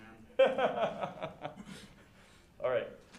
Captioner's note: laughter